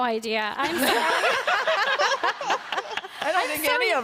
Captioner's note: laughter